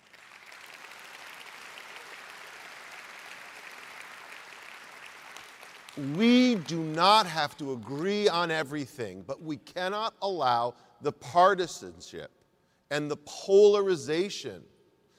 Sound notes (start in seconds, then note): 1.6 applause